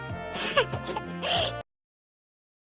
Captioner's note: laughs